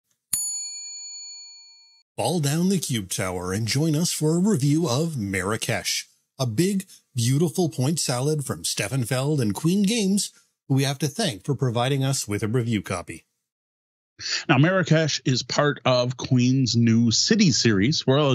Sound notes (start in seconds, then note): 0.3 bell dings